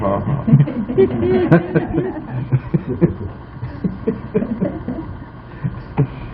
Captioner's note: laughter